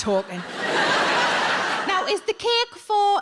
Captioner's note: audience laughs